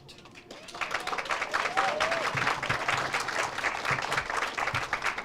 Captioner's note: audience cheers and applauds